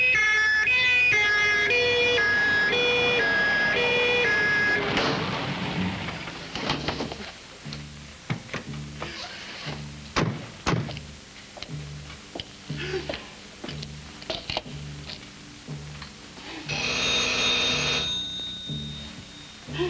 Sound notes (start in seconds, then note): 1.7 police car siren; 5.0 police car stops; 9.4 police car doors slam; 11.3 footsteps outside; 16.7 doorbell rings